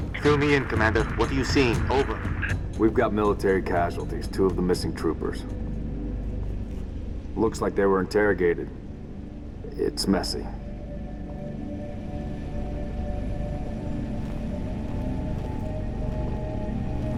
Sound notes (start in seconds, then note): 0.3 radio; 10.1 hesitantly